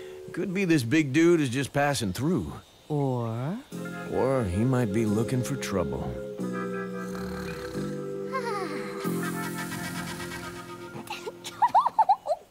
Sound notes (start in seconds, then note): 6.9 snoring; 11.3 giggles